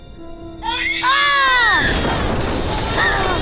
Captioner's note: baby cries; glass shatters